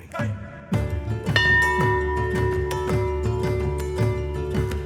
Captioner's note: bell ringing